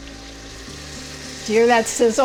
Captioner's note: mixture sizzling